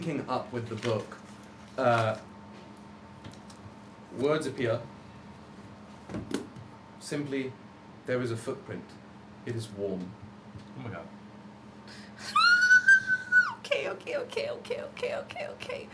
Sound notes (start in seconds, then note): 12.7 squeals